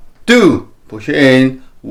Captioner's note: exhales